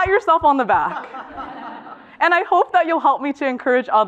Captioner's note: laugh